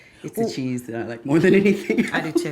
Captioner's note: laughs